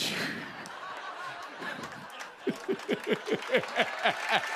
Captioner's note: laughter; cheers and applause